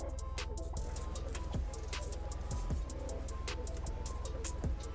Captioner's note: crackling